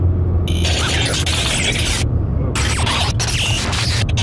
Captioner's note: audio jumbling